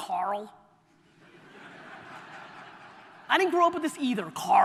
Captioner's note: audience laughter